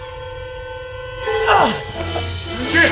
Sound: groans

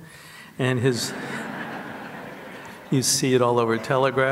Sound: audience laughs

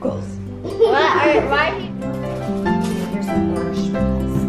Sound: laughing

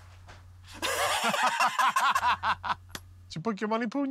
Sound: laughter

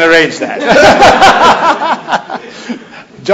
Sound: laughter

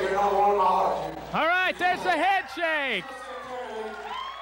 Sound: crowd yelling

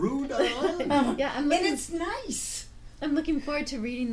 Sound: voiceover

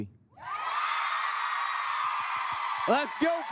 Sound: cheering

